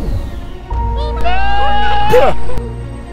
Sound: screams

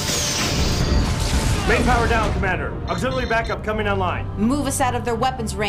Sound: explosion

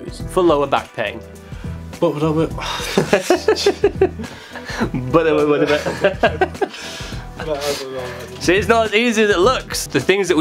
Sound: mumble Noise, followed by Laughter

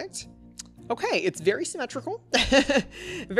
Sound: laughs

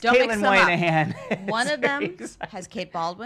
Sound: laughs

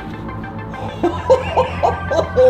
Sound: laughs

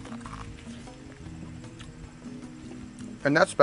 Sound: crunching

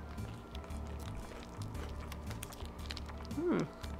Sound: crunching

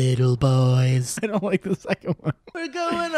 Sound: laughing

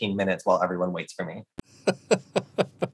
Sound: laughing

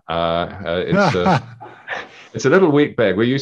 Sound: laughing

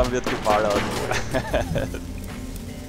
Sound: laughs

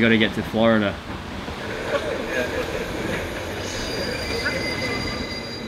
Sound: television show plays

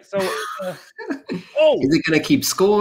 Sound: laughs

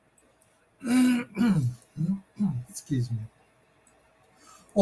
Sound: clears throat

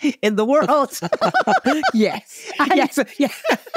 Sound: laughing

